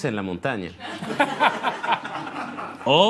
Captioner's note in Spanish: Risas